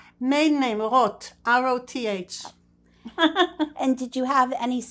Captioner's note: laughing